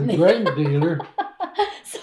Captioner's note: laughs